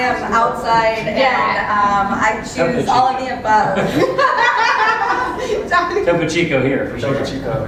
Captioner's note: laugh